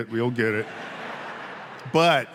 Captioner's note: audience laughing